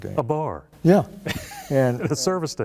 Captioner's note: laughter